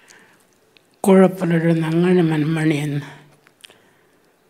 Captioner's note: speaking Anmatyerr